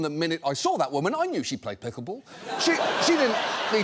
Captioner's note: audience laughs